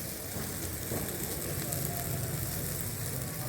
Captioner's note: sizzling